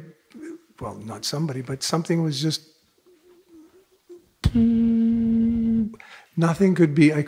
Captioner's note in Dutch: maakt zoemend geluid